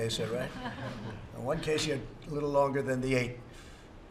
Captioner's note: laughter